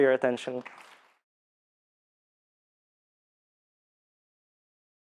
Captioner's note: audience applauds